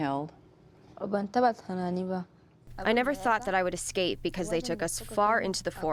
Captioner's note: through translator